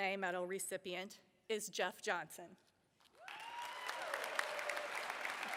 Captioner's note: applause